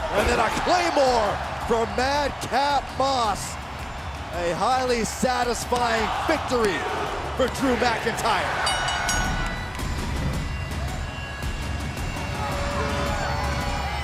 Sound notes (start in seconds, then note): 8.4 dramatic music continues; 8.6 bell dinging